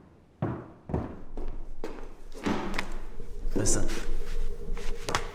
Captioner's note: footsteps thudding